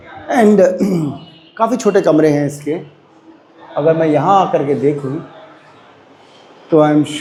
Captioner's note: throat-clearing sound